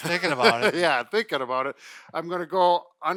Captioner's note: laughing